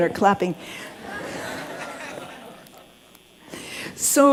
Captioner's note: laughter